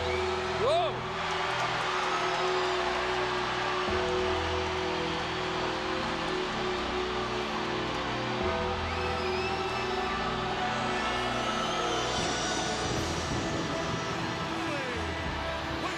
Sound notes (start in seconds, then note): 2.5 crowd cheers; 12.4 solemn funereal music